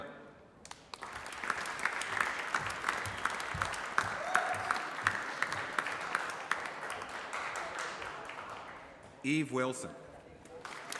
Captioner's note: applause; applause